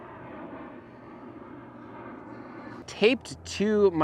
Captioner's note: overhead airplane humming